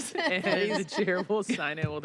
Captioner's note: laughter